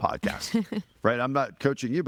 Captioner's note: laughing